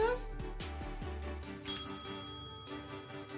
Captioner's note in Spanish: sondo de campana